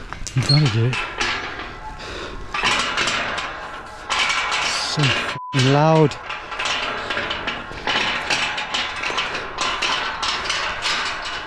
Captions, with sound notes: You gotta do it. (fence rattles) So (beep) loud! (fence rattles)